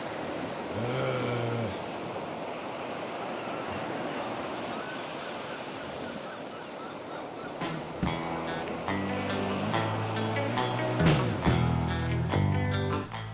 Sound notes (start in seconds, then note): 0.7 groans; 8.0 upbeat rock music